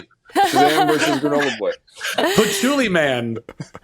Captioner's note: laughing